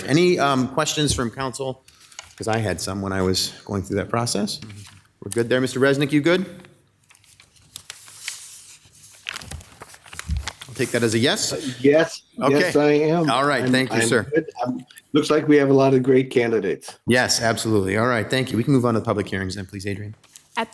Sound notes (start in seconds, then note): 7.0 pages shuffling